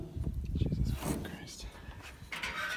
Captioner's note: mumbles